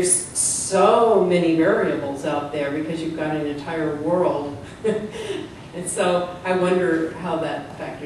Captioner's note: laughter